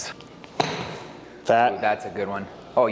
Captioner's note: golf club hits ball